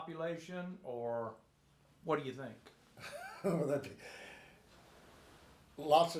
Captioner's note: chuckles